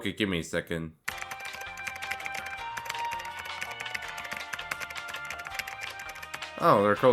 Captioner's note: keybord typing noise